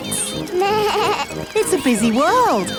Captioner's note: bleats